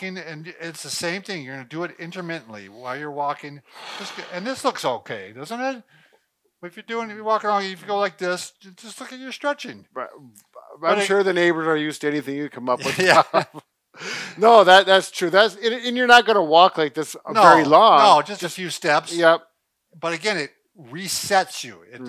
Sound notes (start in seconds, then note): 12.8 laughs